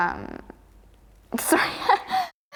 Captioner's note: laughs